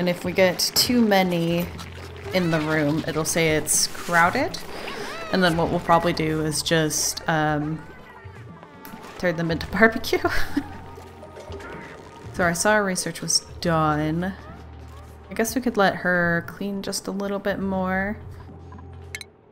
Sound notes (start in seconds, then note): 10.2 sad laugh